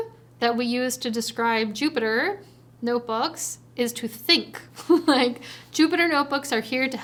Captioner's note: chuckles